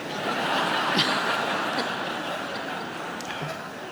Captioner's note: audience laughs